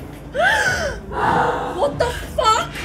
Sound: ghost yells

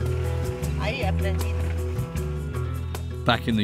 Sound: speaking in foreign language

